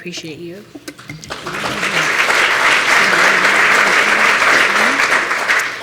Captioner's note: applause